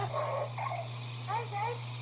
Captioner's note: Luxo Jr. Squeal Softly